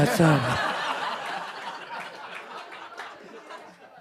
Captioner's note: group laughing